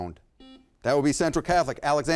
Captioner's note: buzzer beeps